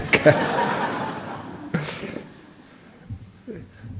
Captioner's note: audience laughs